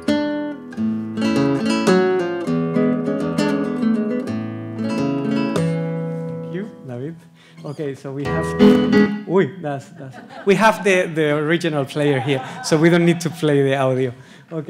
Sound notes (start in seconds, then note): 8.3 guitar recording plays; 9.9 audience laughs